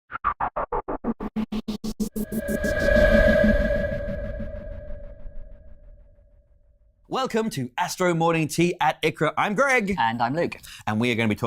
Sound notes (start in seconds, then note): 0.9 pulsating whirring